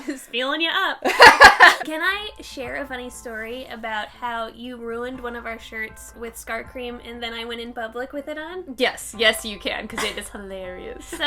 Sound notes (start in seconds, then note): 1.1 laughing